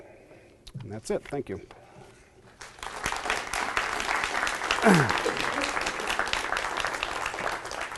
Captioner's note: clapping